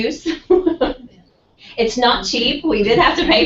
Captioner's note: laugh